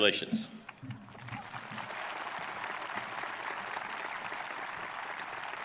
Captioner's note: audience applauding